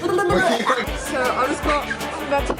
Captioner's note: blubbering; laughing